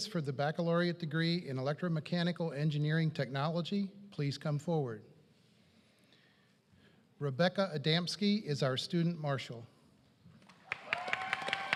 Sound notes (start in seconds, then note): 8.1 applause